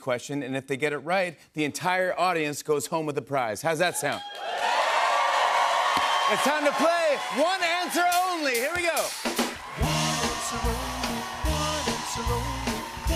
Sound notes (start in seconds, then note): 4.6 cheers and applause